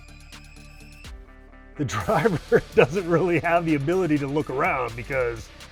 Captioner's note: laughing